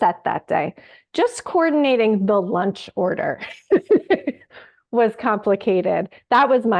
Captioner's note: laughs